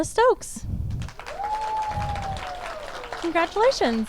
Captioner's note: audience applauds and cheers